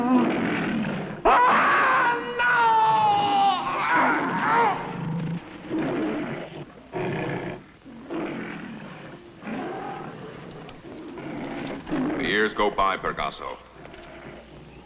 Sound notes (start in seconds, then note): 1.2 screaming; 4.2 lions growling